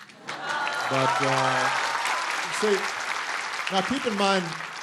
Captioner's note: applause